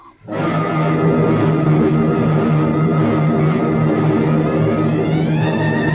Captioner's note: plane engines revving; suspenseful music